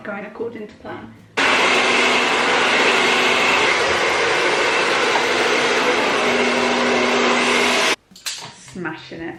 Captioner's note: hair dryer